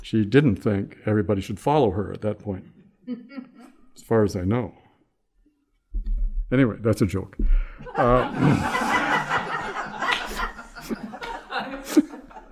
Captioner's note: laughter